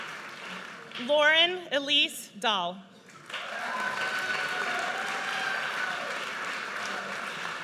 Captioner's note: audience cheers